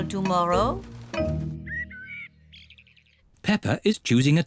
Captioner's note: birds chirping